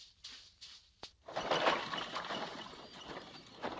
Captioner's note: cart rattling